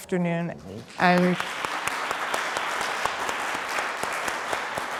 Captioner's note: audience applauds